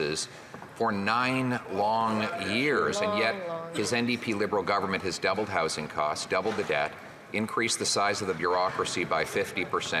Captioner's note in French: voix de l'interprète